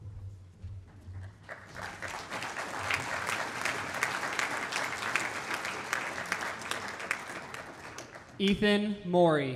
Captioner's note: applause